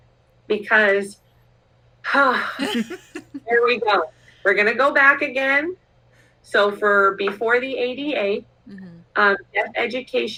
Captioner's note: exhales